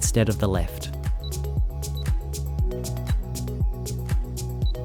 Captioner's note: keypad beeping